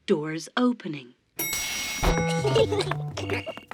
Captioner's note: elevator bell dings; kids giggling